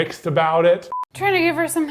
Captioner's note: screen beeps